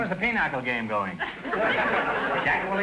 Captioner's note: audience laughter